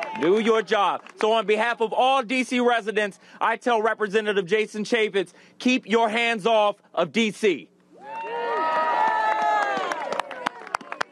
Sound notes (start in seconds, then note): 8.4 applause